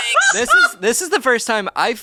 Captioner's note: laughs